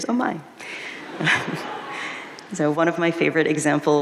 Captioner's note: audience laughing